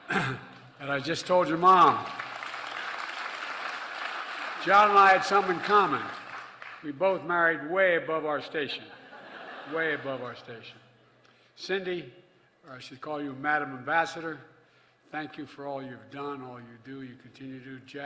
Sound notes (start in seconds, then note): 1.6 laughter and applause; 8.8 laughter